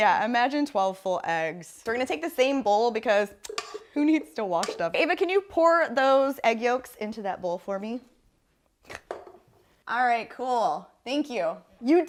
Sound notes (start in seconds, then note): 4.5 metal taps against bowl